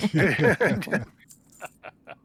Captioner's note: laughing